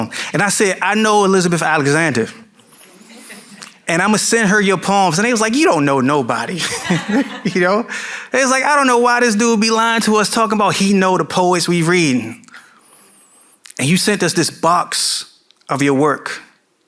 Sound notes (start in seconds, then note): 2.8 audience member chuckling; 6.6 chuckling